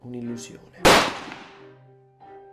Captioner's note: bang!